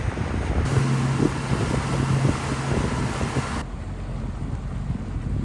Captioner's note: water and engine sounds